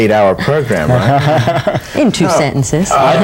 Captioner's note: laughing